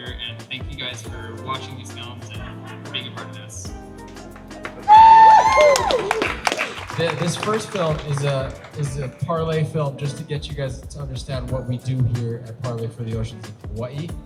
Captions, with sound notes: And thank you guys for watching these films and for being a part of this. [Applause] This first film is a parley film just to get you guys to understand what we do here at Parley for the Oceans in Hawai'i.